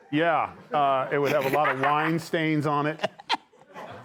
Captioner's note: laughter